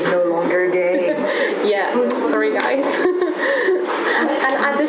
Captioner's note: laugh